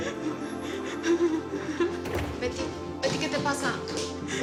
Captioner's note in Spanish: Sollozos